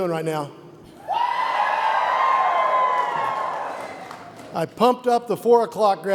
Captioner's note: graduates cheer